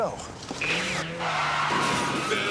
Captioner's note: tires squealing